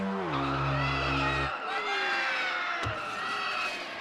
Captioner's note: audience aw